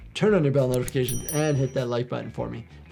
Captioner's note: bell dings